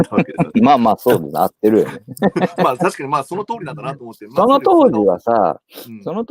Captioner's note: laughs